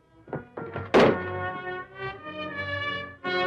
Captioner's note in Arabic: طرقات الباب; موسيقى درامية